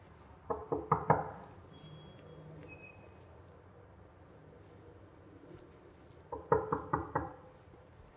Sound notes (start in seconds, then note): 0.5 four raps on door; 6.4 five raps on door